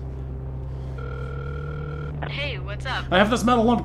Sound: line ringing

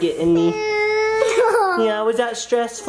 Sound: cries

